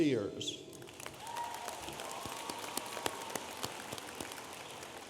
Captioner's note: audience applauding